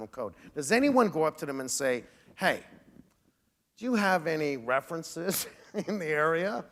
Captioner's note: chuckle